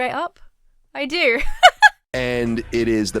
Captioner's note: laughs